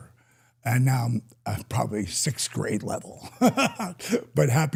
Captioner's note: laughs